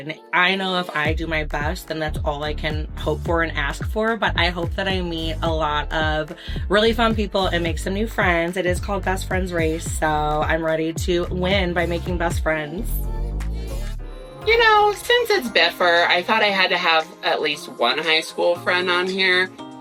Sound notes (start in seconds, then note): none